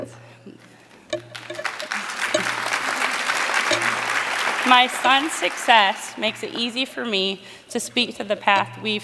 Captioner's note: applause